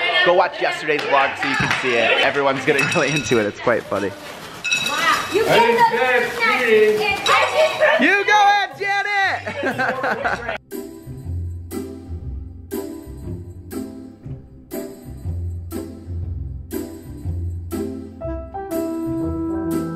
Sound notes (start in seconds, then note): 9.3 laughing; 11.0 playful music